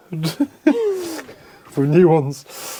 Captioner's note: laughing